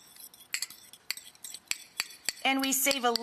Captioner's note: fork clinks